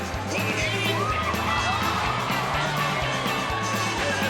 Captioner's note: crowd gasps